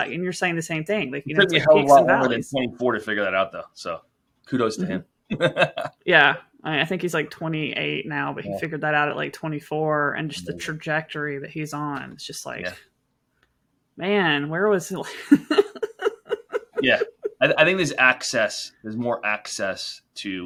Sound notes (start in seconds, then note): 5.3 laughs; 15.1 laughs